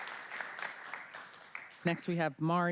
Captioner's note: applause